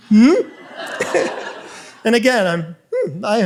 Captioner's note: audience laughs